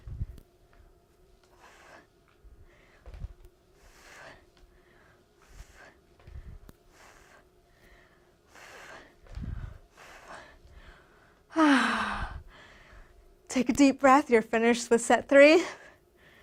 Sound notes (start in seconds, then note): 11.6 breathes